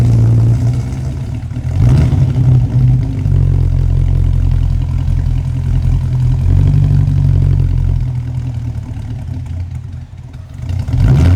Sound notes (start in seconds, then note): 1.9 engine rumbling